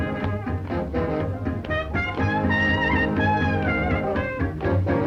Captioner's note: upbeat jazz music; footsteps marching